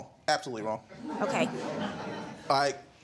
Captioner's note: audience laugh